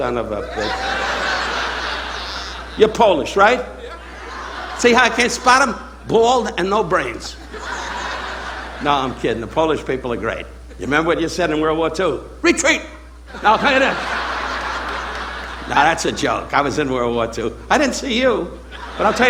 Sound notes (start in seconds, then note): 0.2 audience laughing; 3.8 audience members speaking; 13.2 audience laughing